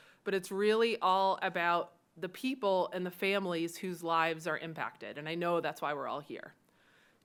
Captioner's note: none